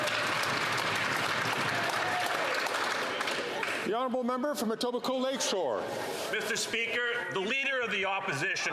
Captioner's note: some Applause